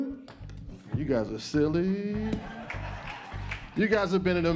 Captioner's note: audience laughs